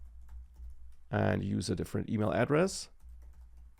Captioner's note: keyboard clicking